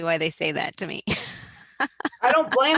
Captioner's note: laughs